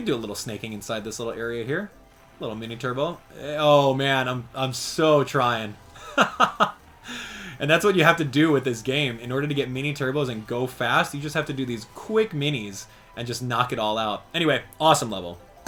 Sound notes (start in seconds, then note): 6.0 laughs